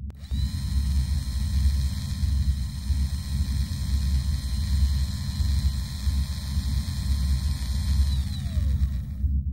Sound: machine whirring

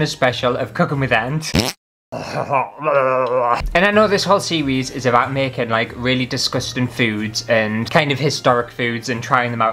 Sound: fart

